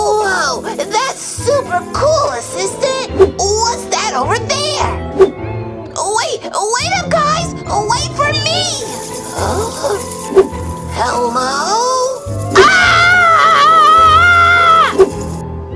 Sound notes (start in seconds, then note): 9.0 playful Halloween music; 12.5 screams